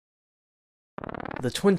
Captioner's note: zoom sfx